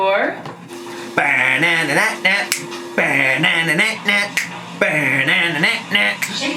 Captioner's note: fingers snapping; sings playfully